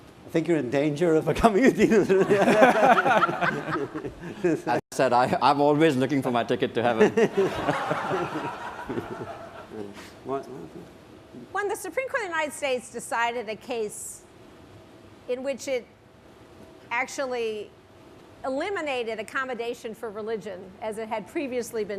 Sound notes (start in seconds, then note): 1.8 laughter; 6.9 laughter